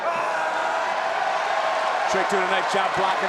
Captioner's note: audience cheering